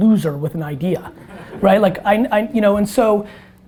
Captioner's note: audience laughter